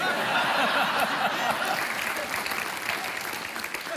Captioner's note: laughter